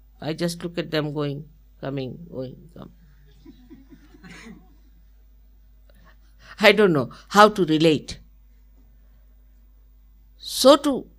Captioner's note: laughter